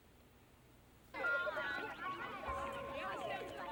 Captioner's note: chattering